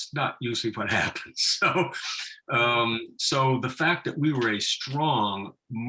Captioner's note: laughing